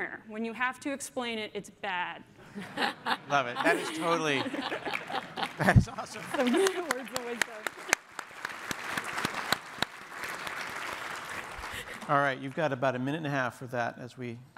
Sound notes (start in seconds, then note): 2.4 laughter; 5.1 applause